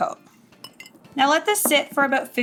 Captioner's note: dish clanking